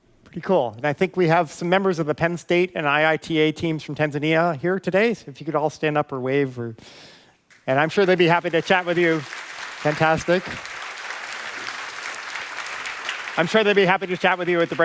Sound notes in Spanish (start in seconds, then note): 11.5 aplausos